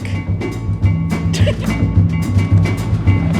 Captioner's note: laughs; ♬ Upbeat jazz, wheels on gravel